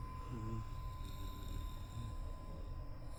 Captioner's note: humming